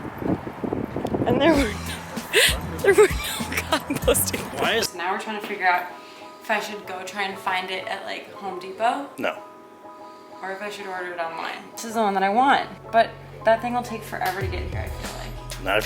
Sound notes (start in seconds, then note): 1.4 laughing